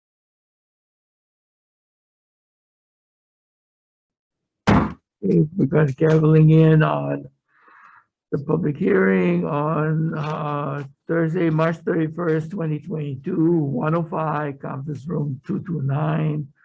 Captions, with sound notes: (gavel pounding) Okay, we've got gaveling in on the public hearing on Thursday, March 31st, 2022, 105, Conference Room 229.